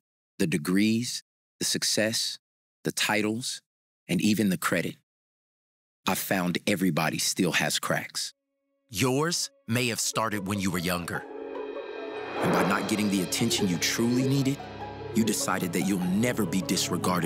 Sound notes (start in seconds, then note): none